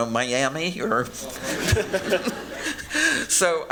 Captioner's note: audience chuckling